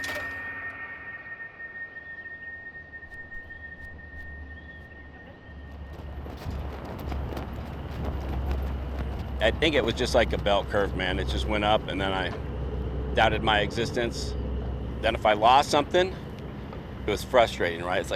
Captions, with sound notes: [BEEPING FADES] "I think it was just like a bell curve, man. It just went up, and then I doubted my existence. Then if I lost something, it was frustrating.